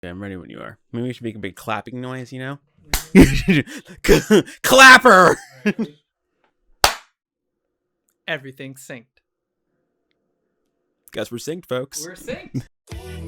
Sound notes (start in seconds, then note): 2.9 clap; 6.8 clap